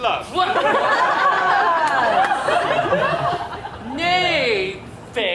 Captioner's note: audience laughs